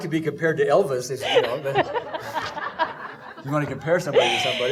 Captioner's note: laughing